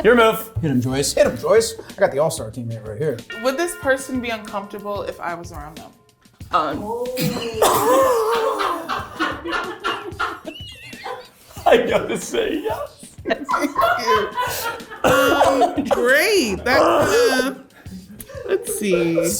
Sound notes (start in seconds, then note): 7.8 laughing